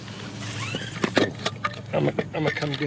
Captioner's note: rope sliding through carabiner